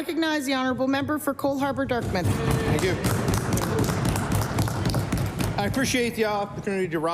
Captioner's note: applause